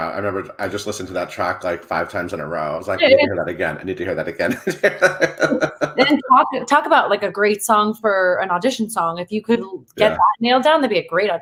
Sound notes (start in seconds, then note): 4.1 laughs